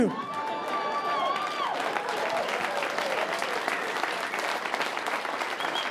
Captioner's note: audience cheering and applauding